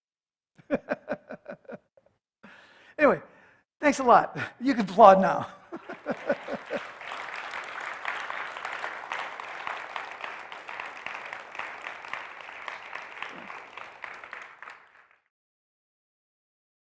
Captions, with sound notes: Anyway, thanks a lot. You can applaud now. [ Applause ]